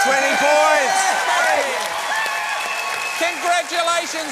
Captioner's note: cheering and applause; screams